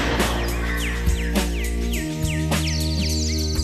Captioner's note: crash & dizzy sound